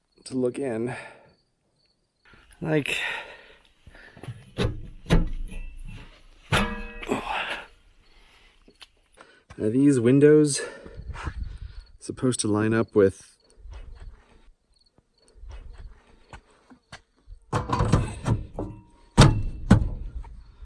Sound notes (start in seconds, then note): 4.2 clanking noises; 5.5 straining noises; 13.5 crickets chirping; 19.0 metal banging